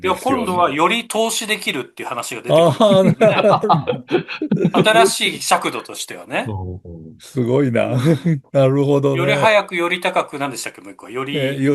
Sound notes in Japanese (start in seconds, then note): 2.5 笑い